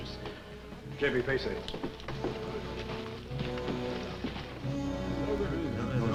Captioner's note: Arobi speaking in foreign language; villagers chattering